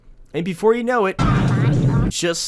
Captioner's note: earthquake